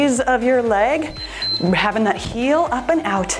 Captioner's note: timer beeps